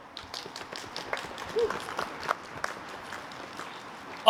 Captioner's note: applause